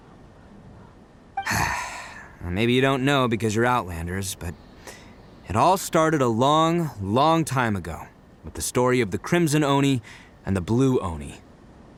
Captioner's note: sigh